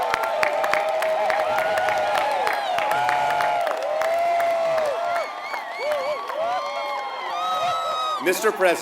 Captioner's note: applause